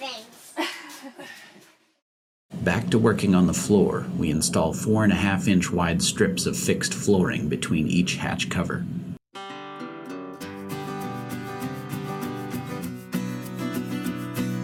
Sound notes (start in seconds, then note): 0.5 laughter